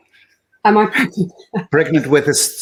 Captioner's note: laughs